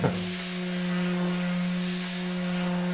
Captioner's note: humming